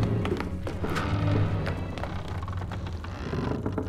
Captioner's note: creaking continues